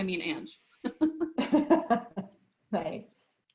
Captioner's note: laughter